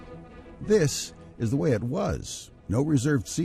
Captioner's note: voiceover